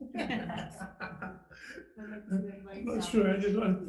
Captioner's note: group laughing